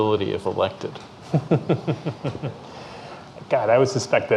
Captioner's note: chuckling